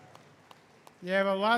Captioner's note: applause